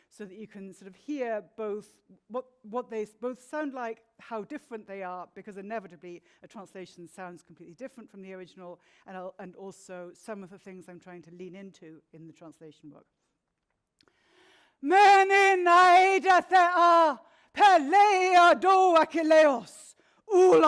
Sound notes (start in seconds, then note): 15.2 speaking in Greek